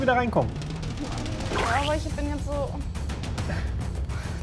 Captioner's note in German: Pflatsch